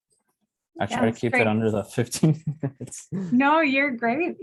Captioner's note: laughing